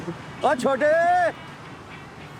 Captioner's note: Cook yells